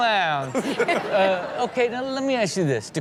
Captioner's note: all laugh